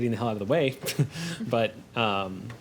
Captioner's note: laughs